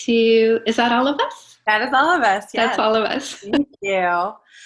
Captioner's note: laughs